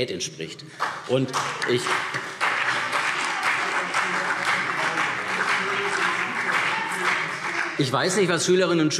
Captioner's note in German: Beifall CDU und vereinzelt BÜNDNIS 90/DIE GRÜNEN - Zurufe SPD